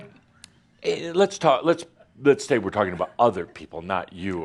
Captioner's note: laughter